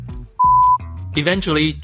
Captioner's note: beep